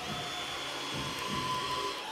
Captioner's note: drill whirring